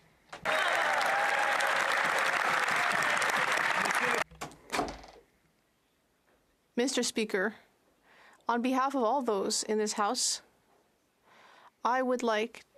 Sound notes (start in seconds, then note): 4.7 some Applause